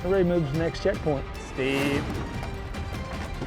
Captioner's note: calls to horses